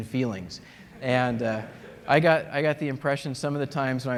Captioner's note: laughter